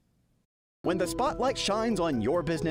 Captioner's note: voiceover